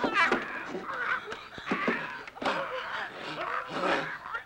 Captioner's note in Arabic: تأوه